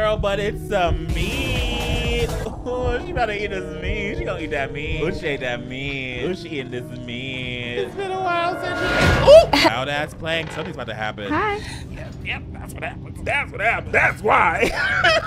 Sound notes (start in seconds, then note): 1.4 upbeat music; 9.3 woman laughs